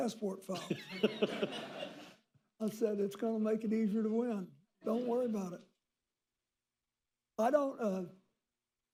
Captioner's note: laughter